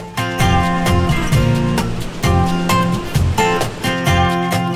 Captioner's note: waves crashing